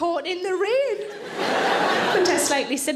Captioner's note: audience laughing